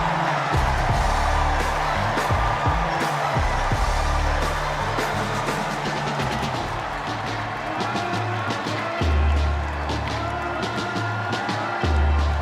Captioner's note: cheers and applause